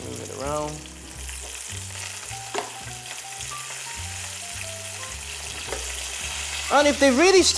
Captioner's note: sizzling sound